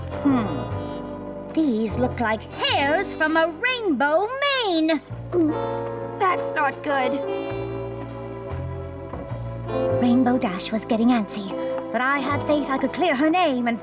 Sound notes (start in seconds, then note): 5.3 gulp